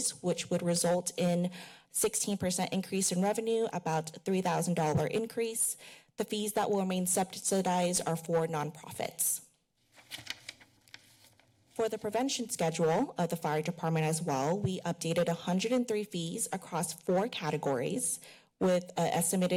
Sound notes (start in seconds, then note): 9.9 papers shuffling